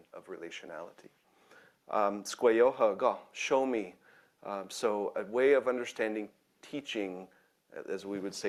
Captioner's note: speaking in own language